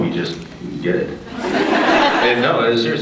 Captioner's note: laughs